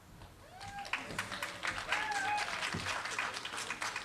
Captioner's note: applause